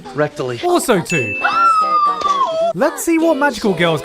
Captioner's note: squealing